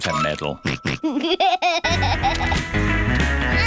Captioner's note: snorts and laughs